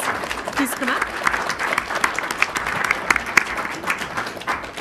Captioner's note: crowd applauding